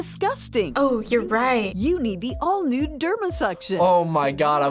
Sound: voice-over

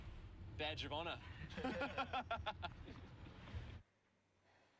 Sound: all laughs loudly

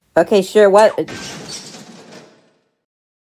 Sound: crash!!

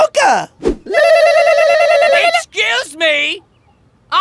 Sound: both ululating

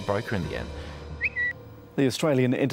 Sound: notification chirp

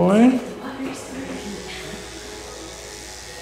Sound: buzzing

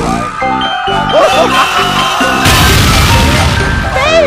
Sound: Luigi Laughing

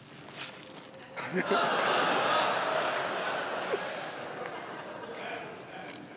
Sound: laughter

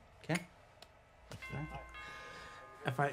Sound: doorbell rings

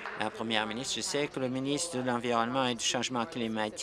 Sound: applause

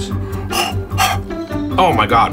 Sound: exhales noisily

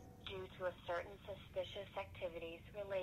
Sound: automated Voice

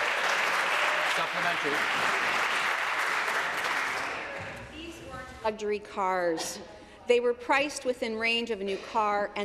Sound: applause

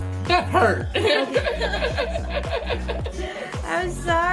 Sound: everyone laughing

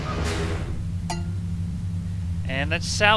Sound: clank

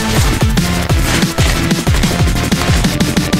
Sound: heavy footsteps

